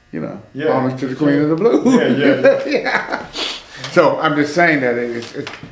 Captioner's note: laughs